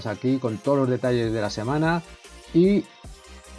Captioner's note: none